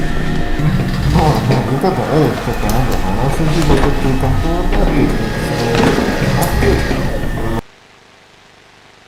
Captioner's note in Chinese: 交談聲